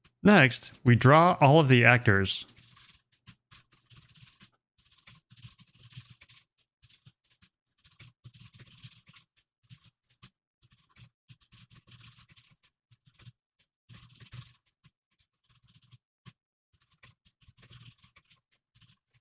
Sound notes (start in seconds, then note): 6.3 typing sounds